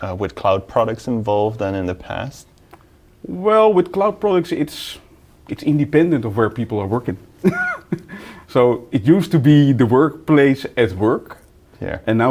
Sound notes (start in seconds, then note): 7.4 laughs